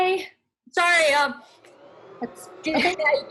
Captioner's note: sound of vacuuming